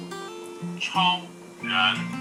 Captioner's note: voice from the app